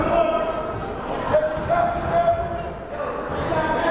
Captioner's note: yelling